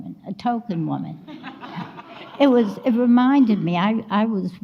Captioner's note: audience laughs